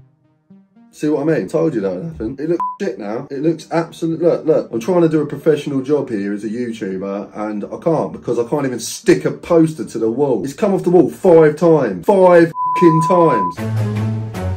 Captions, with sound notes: See what I mean? Told you that would happen. It looks (beep) now. It looks absolute... Look, look. I'm trying to do a professional job here as a YouTuber and I can't, because I can't even stick a poster to the wall. It's come off the wall five times. Five (beep) times!